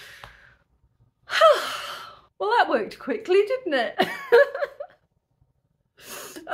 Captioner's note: laughing